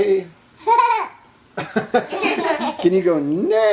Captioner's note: laughter